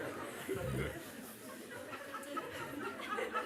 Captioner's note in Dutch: gelach